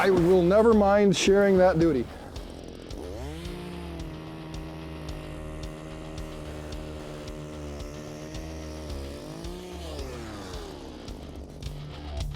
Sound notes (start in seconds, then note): 3.8 auger drilling; 6.5 rock music